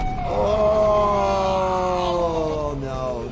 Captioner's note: creature roaring